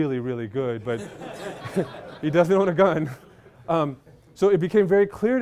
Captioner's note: laughter